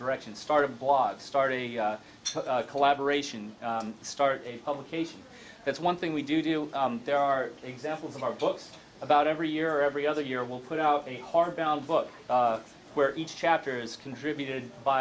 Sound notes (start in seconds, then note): none